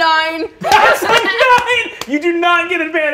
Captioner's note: cast laughing